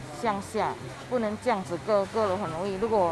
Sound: in mandarin

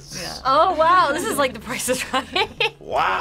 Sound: laughs

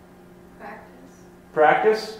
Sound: voiceover

